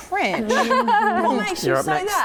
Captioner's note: laughing